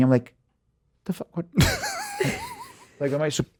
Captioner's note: Justin, Jamey and Liz laughing